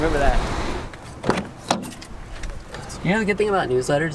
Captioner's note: car door opening